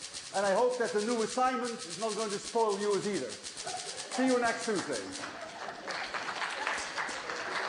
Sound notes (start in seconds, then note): 5.1 applause